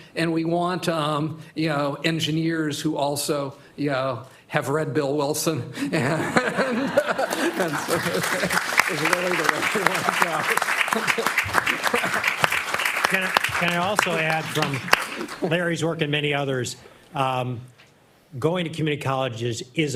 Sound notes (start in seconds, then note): 7.2 applause